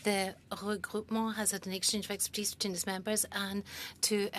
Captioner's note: speaking French